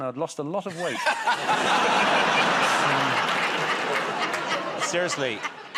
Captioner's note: laughter